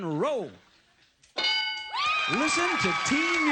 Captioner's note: ding